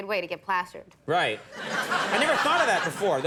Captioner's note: crowd laughs